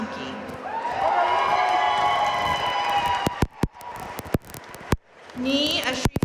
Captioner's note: audience cheering and applauding